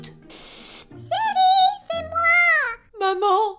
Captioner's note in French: voix aigue